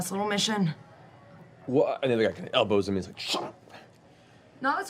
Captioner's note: whispering